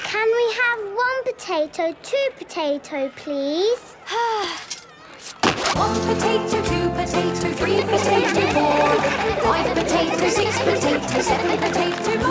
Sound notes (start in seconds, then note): 4.1 Belinda sighing; 7.5 laughter